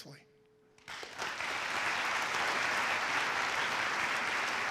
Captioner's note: audience applauds